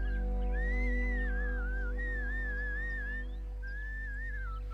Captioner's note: whistling